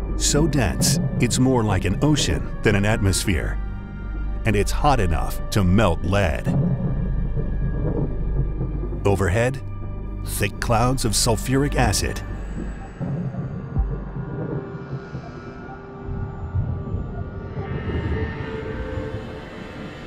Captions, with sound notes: So dense, it's more like an ocean than an atmosphere. And it's hot enough to melt lead. Overhead, thick clouds of sulfuric acid. (eerie music) (thunder rumbling)